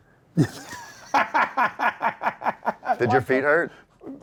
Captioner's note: laughs